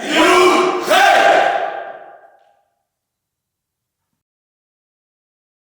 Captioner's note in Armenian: ծափահարություն